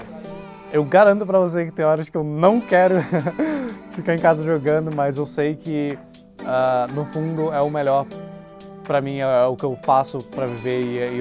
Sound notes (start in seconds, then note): 2.8 laughs